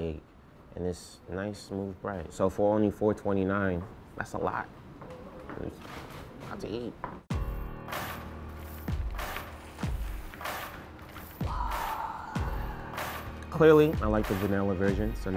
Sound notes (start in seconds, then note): 7.5 mellow hiphop music; 11.4 sighs with satisfaction